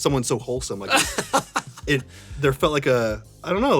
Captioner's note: Tony laughs